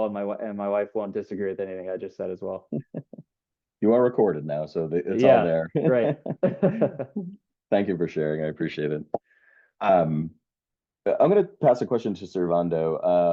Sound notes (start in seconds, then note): 2.6 chuckles; 5.7 chuckles